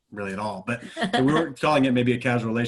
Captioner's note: laughs